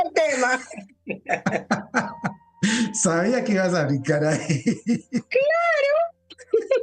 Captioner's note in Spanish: risas; risas